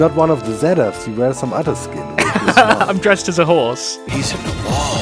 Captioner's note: laughs